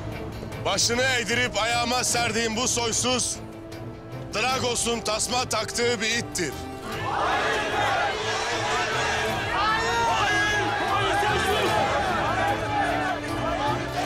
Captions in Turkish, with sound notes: Başını eğdirip, ayağıma serdiğim bu soysuz... ...Dragos'un tasma taktığı bir ittir! (Hep bir ağızdan) Hain köpek! Hain! (Gerilim müziği)